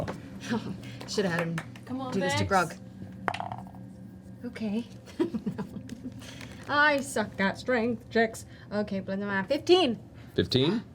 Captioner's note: laughs